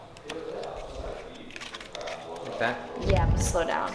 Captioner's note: card shuffling